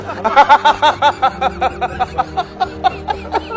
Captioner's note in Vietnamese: tiếng cười